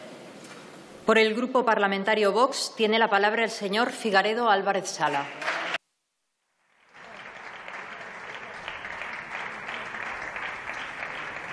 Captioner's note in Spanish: Aplausos